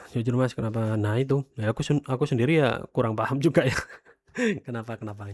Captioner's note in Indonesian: tertawa